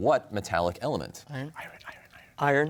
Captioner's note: whispers